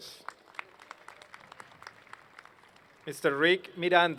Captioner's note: applause